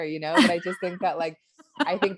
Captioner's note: laughs